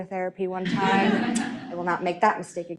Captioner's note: audience laughing